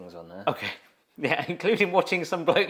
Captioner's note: laughs